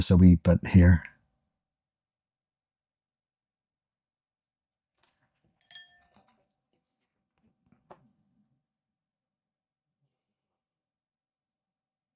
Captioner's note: silence